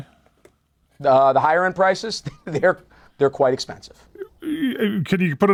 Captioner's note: laughs